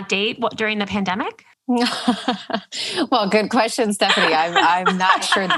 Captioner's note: laughs